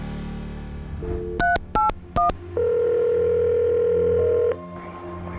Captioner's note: phone ringing